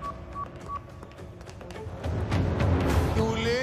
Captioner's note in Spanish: Pitidos